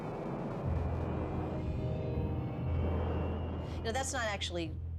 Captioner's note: missiles firing up